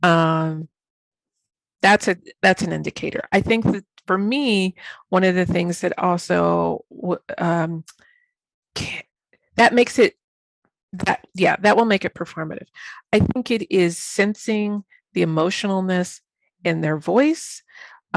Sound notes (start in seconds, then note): none